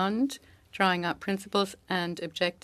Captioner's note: speaking French